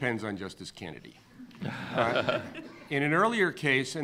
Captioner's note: laughing